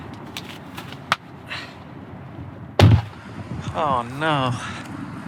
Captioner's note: huffs